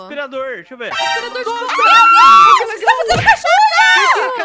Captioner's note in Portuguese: gritos